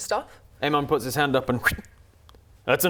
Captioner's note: fwip